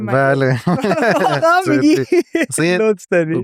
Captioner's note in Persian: خنده